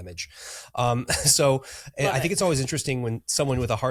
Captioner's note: chuckles